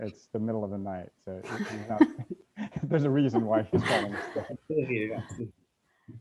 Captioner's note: laughing